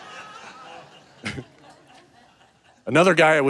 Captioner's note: audience laughing; chuckles